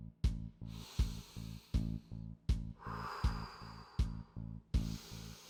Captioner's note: breathes deeply